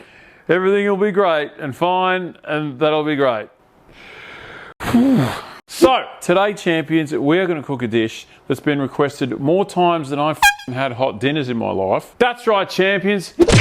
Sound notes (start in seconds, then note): none